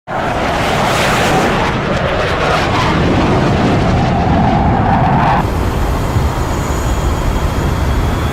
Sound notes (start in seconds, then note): 0.0 jet engine roaring